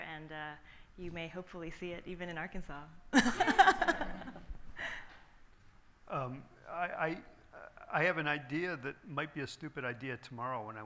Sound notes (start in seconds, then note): 3.2 laughing